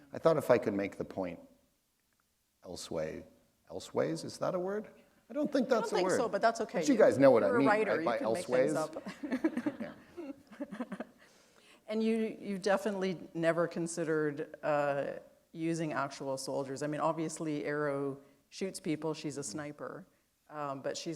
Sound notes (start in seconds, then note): 7.6 chuckle